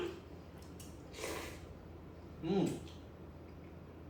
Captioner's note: laugh; slurps